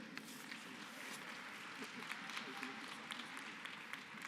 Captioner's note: applause